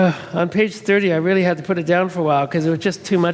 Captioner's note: sighs